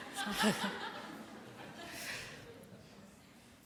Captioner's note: laughter